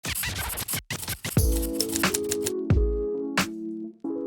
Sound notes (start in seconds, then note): 0.0 record scratches; 1.4 chill music